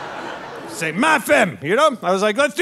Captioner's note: audience laughing; speaking French